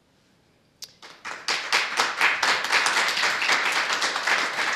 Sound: group applauding

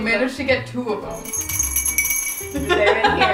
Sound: glass rattling; laughing

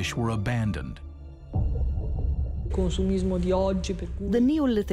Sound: non-english speech

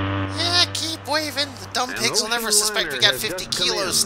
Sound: kid voice

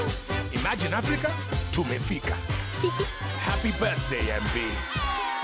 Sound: speaking Swahili; MB giggles

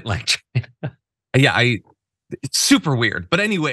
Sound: laugh

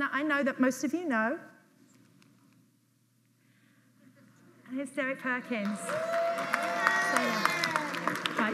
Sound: audience applauds

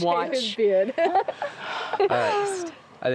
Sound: laughing

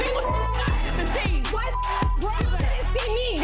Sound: beep

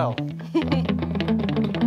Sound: laughing

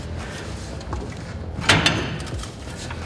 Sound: metal shifts into place

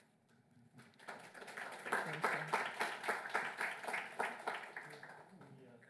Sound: applause

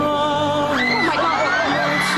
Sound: audience screams

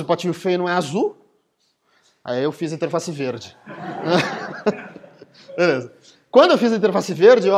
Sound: laughter

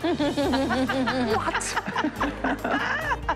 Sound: laughter

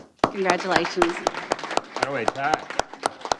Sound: applause

